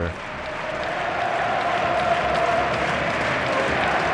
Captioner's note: crowd cheering